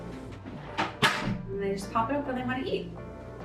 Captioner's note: bracket clicks